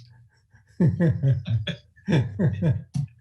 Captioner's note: laughing